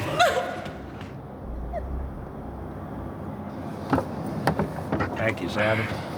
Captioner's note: crying